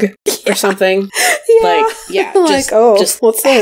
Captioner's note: laughs